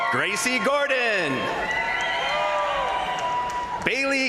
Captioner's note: crowd applauding; crowd cheering